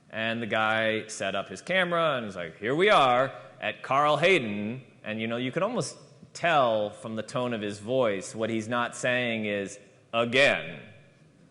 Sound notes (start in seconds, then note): none